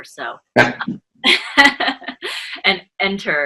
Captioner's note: laughing